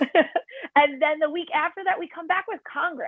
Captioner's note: laughter